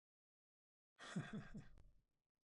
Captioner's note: laughs